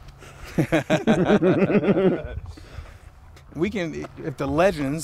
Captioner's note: Josh and Dave laughing